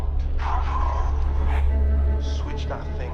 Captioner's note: William speaking in tongues